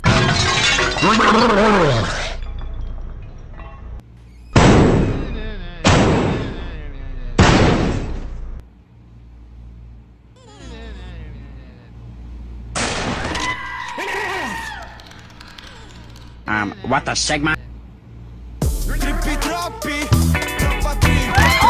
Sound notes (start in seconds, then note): 0.0 toilet glass shattering noise; 4.5 sounds of table being smashed in rage 3x; 13.2 table snaps by a student, flash photography noise, and screaming noises